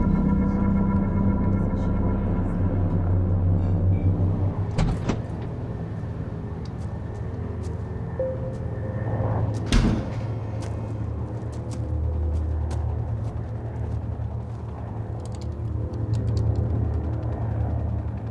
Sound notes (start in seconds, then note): 4.7 door clicks; 4.9 tense music; 9.7 door thuds; 11.2 feet thudding; 15.0 helicopter whirring